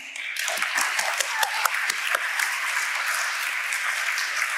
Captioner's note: audience applauding